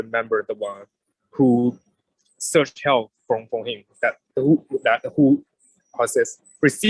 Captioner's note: murmurs